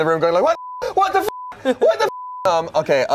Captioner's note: beep